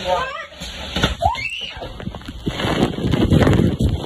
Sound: trapdoor opens,screams

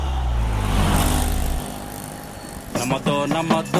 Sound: commotion

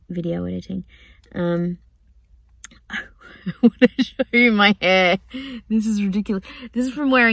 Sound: laughing

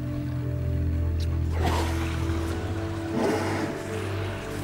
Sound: orca whales breathing

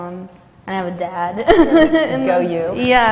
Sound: laughter

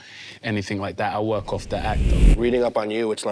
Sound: wind whooshes

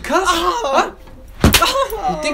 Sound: whip sound

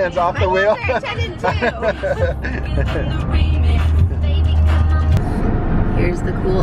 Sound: laughs

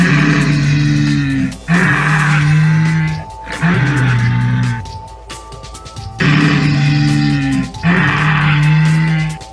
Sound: Sinoceratops growling; triceratops growling

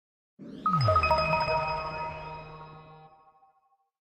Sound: logo chiming

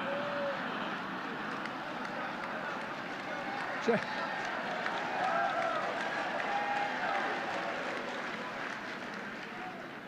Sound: laughter and applause

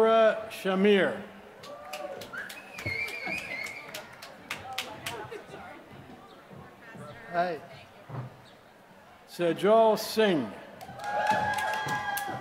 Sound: applause

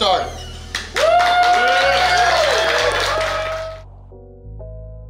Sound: clapping & Cheering

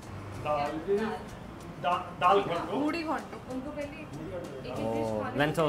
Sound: family speaking foreign language

